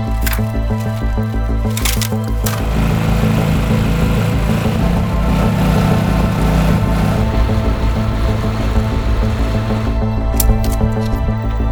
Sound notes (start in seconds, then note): 0.2 suspenseful music; 3.6 motor running; 8.6 suspenseful music